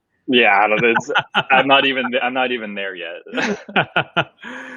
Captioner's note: laughing